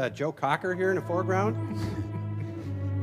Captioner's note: chuckling